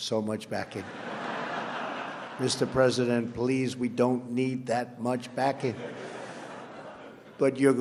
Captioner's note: laughter